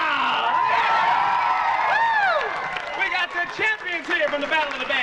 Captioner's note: crowd cheering and applauding